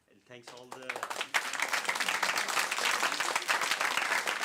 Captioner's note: applause